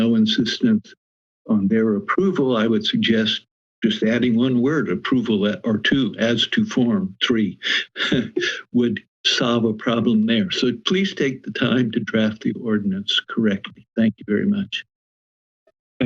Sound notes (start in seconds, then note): 7.6 laugh